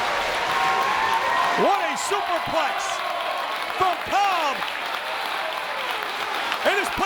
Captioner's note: applause